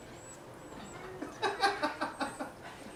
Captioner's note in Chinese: 忘了在笑什么